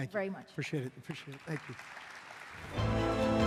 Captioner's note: applause